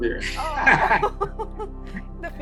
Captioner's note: both laughing